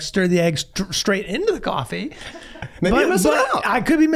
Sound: Meg laughing

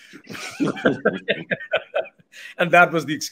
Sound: both laughing

